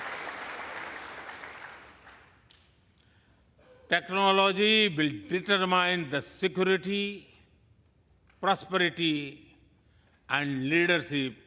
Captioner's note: applause